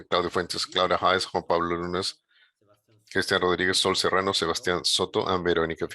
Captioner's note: speaking in a foreign language